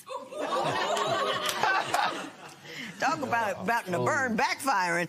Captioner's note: laughter